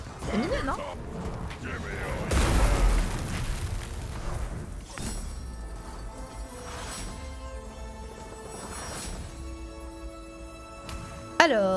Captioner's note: game sounds